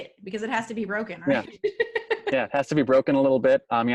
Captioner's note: laughs